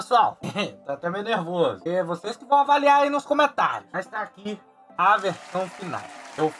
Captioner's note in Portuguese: Riso